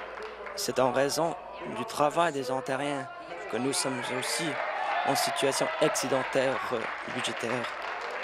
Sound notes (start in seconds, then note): 0.0 applause